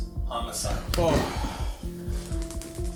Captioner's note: gasping with relief